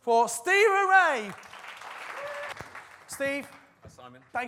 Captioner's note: audience clapping